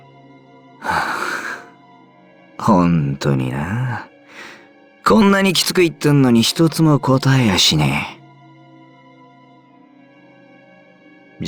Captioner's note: sigh